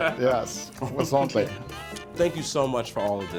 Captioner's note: laughing